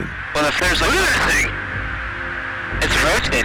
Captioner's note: voiceover